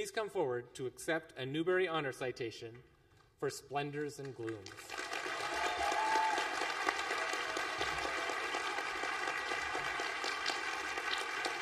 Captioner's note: applause